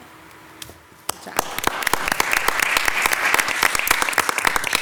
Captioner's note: council applauding